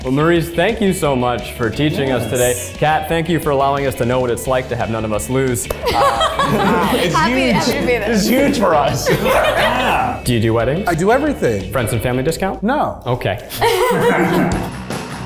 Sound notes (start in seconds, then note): 5.7 group laughs; 9.5 laughs; 13.5 group laughs